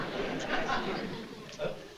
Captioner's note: impersonating marlon brando